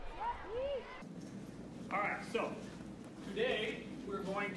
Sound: none

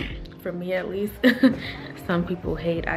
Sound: chuckles

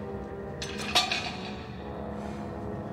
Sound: clunk!

